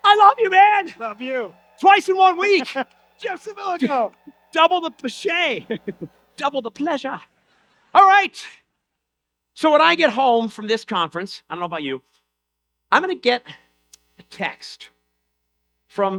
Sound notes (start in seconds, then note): 7.3 audience laughter